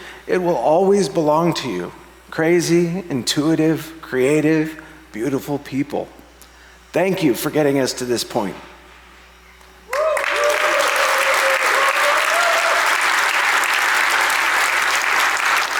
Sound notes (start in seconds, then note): 9.9 audience applauds